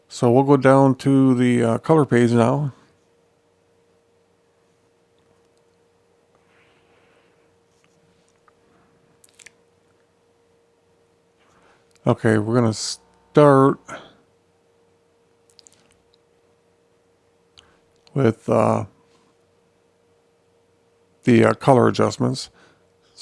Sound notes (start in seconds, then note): 2.9 silence